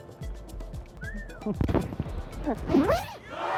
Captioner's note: whistle sound; crowd cheering sound effect